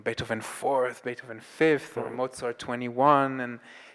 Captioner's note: none